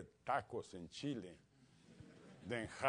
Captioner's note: laugh